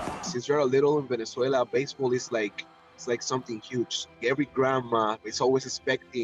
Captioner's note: cheers and Applause